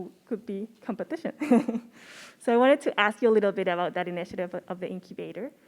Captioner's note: laugh